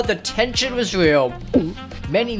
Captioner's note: gulp